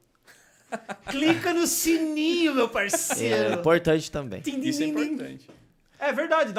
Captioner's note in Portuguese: risos; imitou o barulho do sino tocando